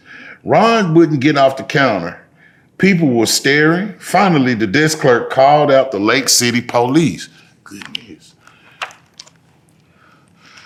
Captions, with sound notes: Ron wouldn't get off the counter. People were staring. Finally, the desk clerk called out the Lake City police. Goodness. (pages rustling)